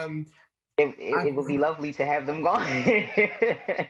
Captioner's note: laughs